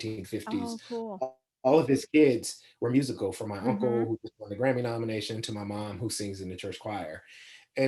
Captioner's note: laughs